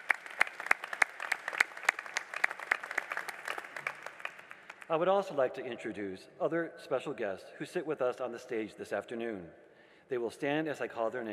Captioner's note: applause